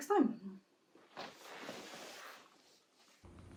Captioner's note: fabric rustles